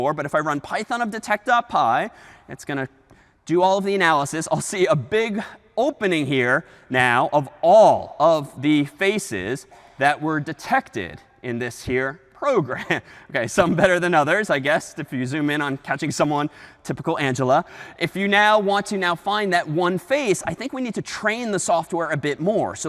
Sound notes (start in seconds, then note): 13.5 chuckles